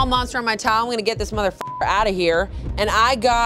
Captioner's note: beep